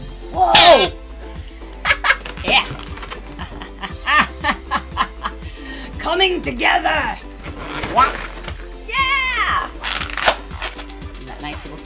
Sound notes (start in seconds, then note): 1.8 laughs; 1.8 giggles